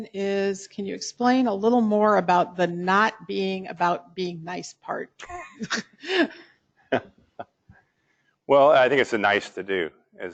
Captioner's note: laugh